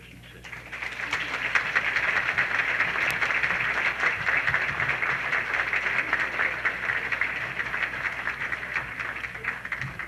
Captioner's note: applause